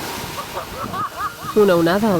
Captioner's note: they laugh